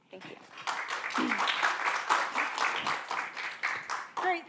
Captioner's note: applause